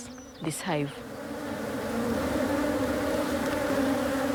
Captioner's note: buzzing